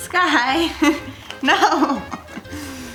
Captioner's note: laughs